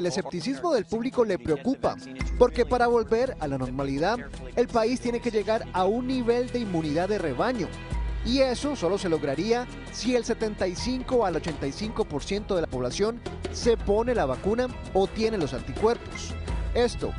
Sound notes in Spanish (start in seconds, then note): 2.6 HABLAN EN INGLéS